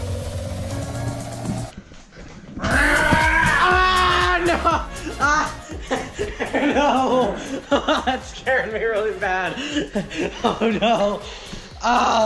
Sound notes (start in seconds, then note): 2.6 screams; 2.9 growls; 6.0 laughs